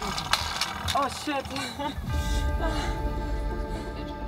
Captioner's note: moaning